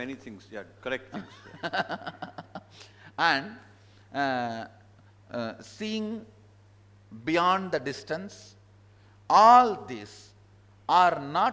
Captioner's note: laughs